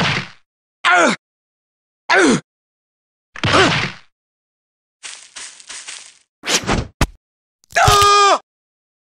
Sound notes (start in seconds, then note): 5.0 footsteps